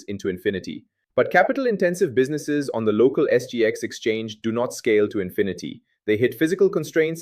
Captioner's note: thoughtful